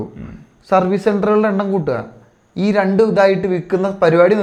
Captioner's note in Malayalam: തൊണ്ട ശരിയാക്കുന്നു